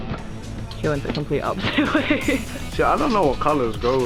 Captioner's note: laughs